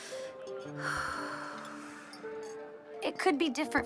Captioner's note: Mischa sighs